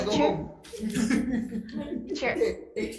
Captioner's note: laughter